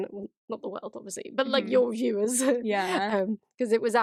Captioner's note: laughs